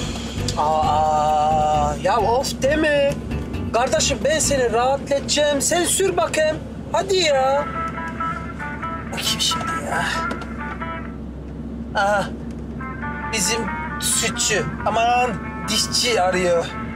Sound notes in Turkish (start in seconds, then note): 6.7 Telefon zili sesi